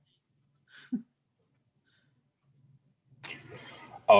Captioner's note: chuckles